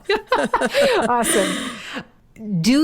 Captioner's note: laughing